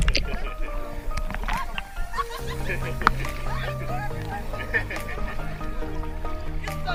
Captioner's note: screams and laughter